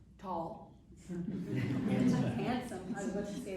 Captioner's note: chuckling